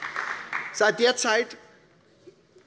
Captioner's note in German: Beifall bei der SPD